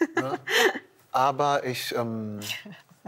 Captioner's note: laughter